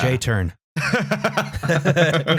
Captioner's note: laughs; laughter